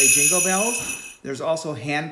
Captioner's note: jingling bells